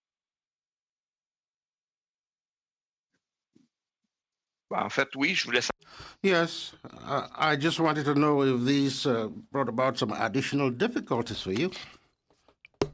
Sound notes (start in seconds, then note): 11.5 speaking French